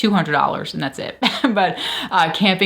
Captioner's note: chuckles